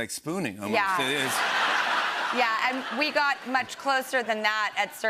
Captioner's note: laughter